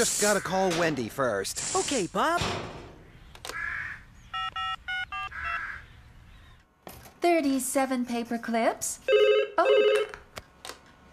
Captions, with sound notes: I'VE JUST GOT TO CALL WENDY FIRST. OKAY, BOB! ( Phone Keys Beep ) 37 PAPER CLIPS. ( Phone Rings ) OH!